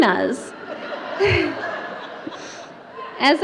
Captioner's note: audience laughter